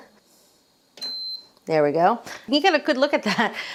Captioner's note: slow cooker beeping